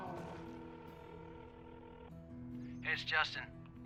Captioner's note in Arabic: رنين الهاتف